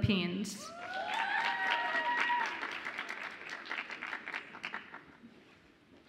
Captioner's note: audience applauds and cheers